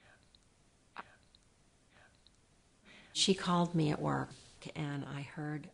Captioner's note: pause